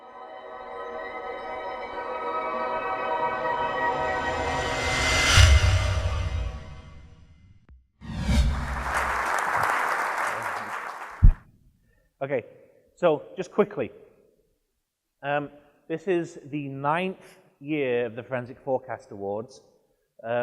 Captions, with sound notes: (ethereal music) (applause) - Okay, so, just, quickly. This is the ninth year of the Forensic 4:cast Awards